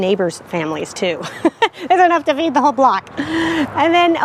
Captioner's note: laughs